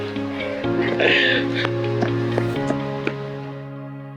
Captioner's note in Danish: klukker